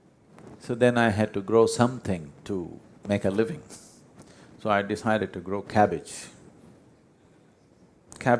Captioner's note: laughs